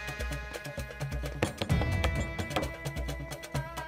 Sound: knocks on door

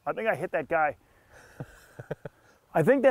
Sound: laughs

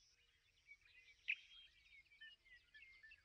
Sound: birds chirping

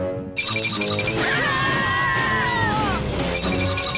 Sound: screams

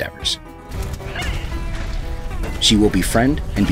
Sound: weapons clanging

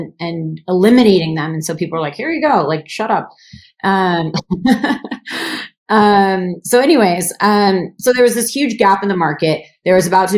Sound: laughs

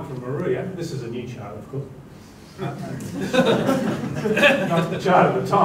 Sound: laughter

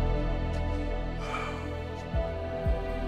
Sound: sighs

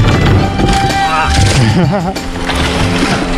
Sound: grunts; laughs

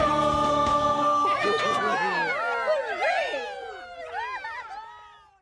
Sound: cheering

